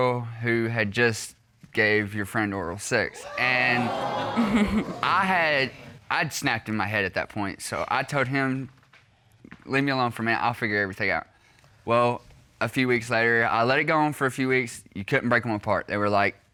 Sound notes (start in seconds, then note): 3.7 chuckling